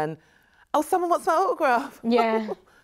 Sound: chuckles

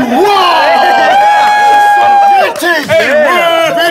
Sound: cheering

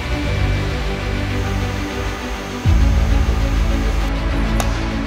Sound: bright uplifting music; machines whirring; bright uplifting music; hammer pounding

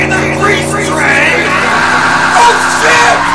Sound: car loses control

